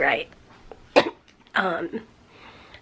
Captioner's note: cough